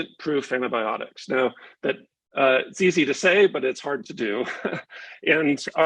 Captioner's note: chuckles